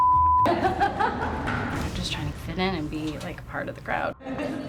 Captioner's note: laughs